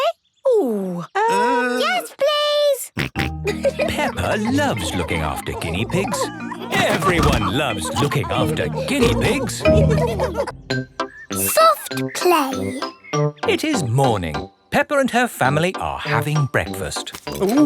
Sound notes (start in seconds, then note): 2.9 snorting and giggling; 9.8 laughter